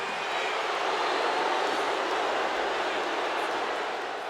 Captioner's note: audience jeering